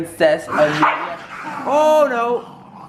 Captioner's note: growl bark growl